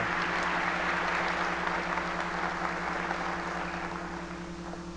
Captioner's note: applause